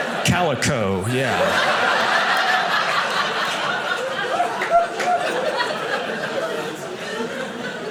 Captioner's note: audience laughing